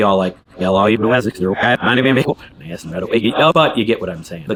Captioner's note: words reversing